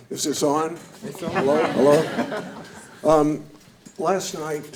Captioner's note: audience laughing